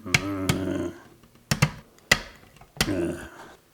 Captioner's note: grunting sounds